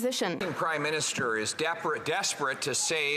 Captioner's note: applause